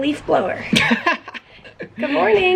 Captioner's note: laughter